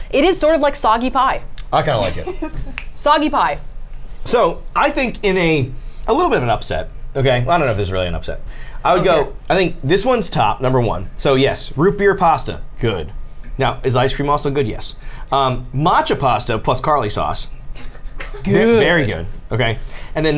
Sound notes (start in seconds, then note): 3.2 snaps